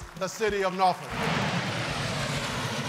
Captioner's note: cheers and applause